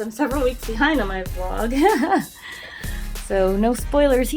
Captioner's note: laughs